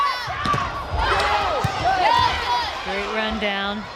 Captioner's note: players yelling